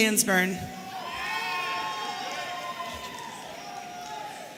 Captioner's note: audience cheering